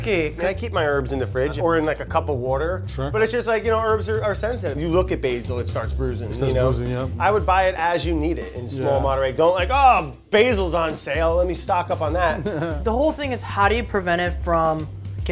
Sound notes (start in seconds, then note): 12.3 laughing